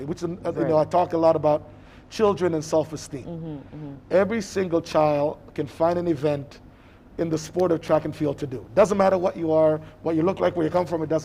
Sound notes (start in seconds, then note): none